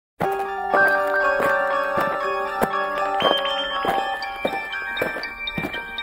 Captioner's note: footsteps crunching; haunting piano music